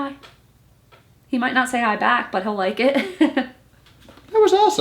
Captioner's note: laughs